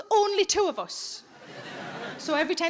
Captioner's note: audience laughing